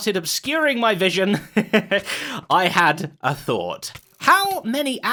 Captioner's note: chuckles